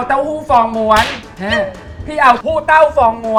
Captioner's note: bam!